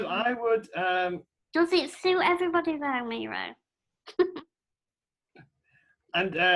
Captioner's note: laughter